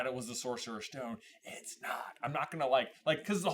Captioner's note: whispers